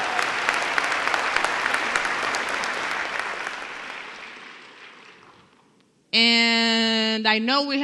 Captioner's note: applause